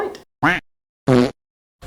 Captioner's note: fart noise